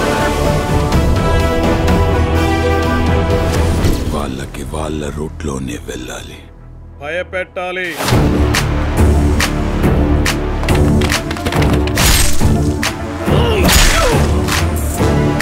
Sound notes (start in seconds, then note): 12.0 knife slits; 13.3 groans in pain